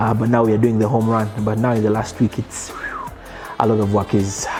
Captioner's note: whistles